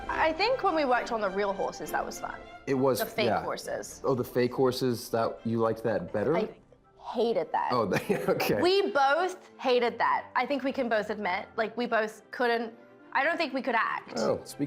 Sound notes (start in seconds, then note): 7.9 laughs